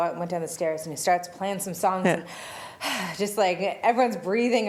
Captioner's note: heavy breathy sound